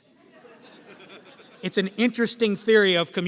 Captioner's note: laughter